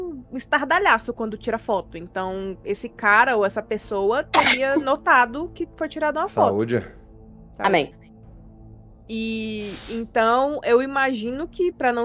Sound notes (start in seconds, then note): 4.3 sneeze